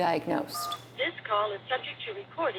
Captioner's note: phone beeps